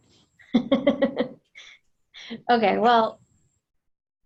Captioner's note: laughs